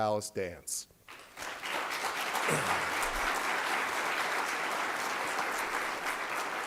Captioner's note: applause